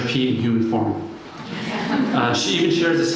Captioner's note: laughter